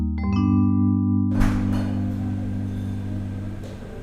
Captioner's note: cafes noises